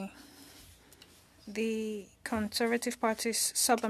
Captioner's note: speaking French